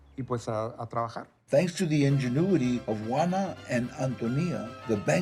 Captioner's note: in English